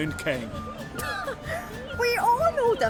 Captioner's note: laugh